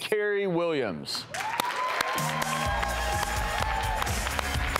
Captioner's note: audience applauding